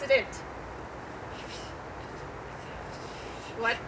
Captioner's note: whispering